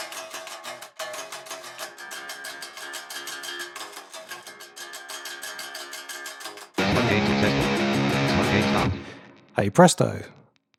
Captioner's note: automated voice